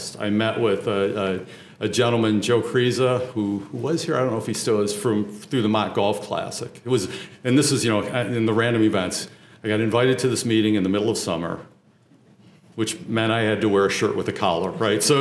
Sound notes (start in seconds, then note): none